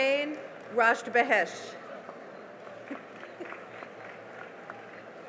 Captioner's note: cheering and applause